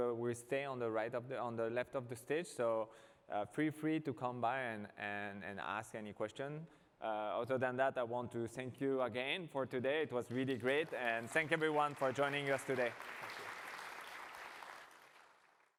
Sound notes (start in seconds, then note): 13.3 applause